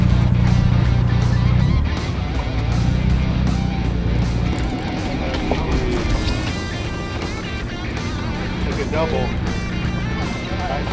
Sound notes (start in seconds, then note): 5.0 fishing rod reels